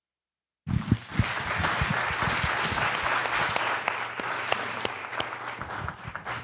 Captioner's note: applause